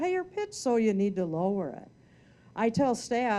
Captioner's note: lowers voice